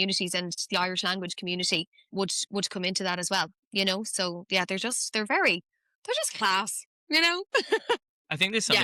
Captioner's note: laughs